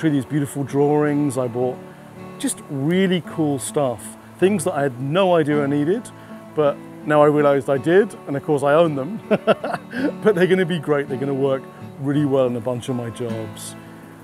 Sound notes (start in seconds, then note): 9.2 laughing